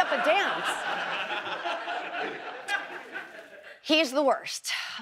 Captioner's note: audience laughs